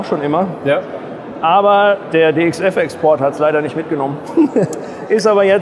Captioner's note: laughing